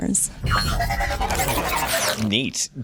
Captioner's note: science fiction sound